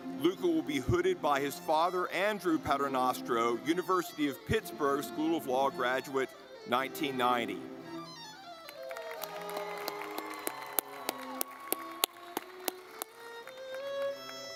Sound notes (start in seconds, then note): 8.0 lively music; 8.6 audience clapping